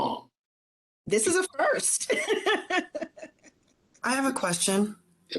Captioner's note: laughs